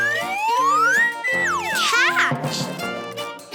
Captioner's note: ball whistling